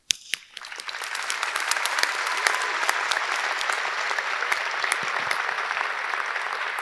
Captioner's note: audience applauding; audience cheering